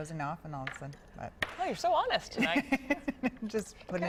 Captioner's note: laughter